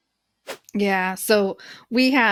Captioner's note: whooshing sound